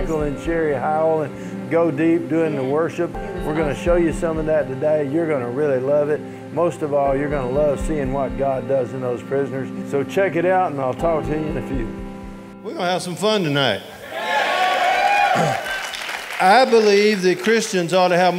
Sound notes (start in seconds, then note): 13.9 audience cheering